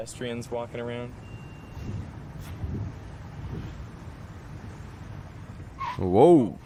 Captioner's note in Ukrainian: Звуки навколо, скрегіт гальм